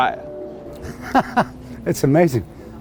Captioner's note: laughs